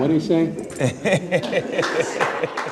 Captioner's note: laughing